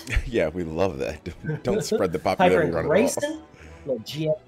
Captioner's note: laugh